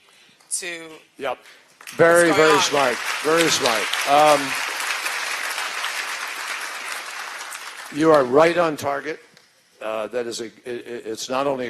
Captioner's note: applause